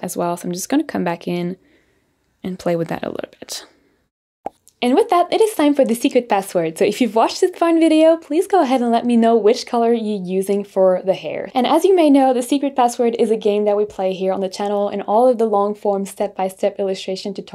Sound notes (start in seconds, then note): 4.4 balloon pops